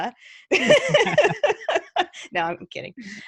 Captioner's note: both laughing